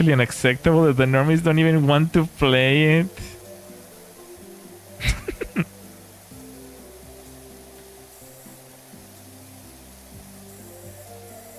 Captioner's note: laughter